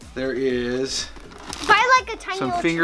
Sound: none

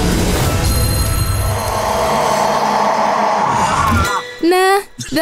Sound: ghost yells

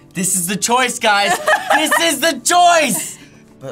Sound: laughs

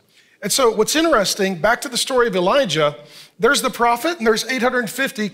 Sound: none

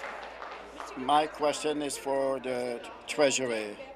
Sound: applause

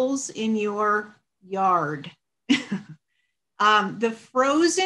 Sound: chuckles

